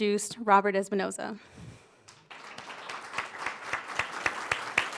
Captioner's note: applause